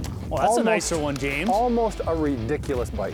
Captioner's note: voiceover